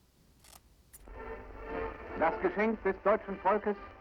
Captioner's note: man speaking german